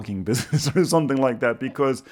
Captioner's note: chuckles